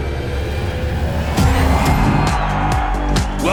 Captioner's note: crowd cheering